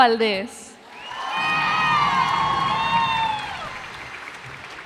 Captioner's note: cheers and applause